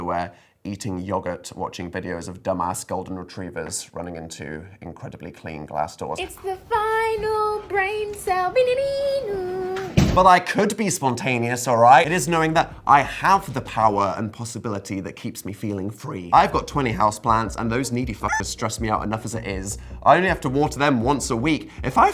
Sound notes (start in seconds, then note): 8.6 humming